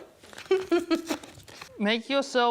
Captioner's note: laughs